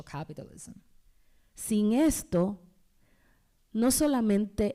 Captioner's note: speaking spanish